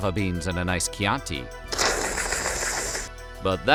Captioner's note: slurping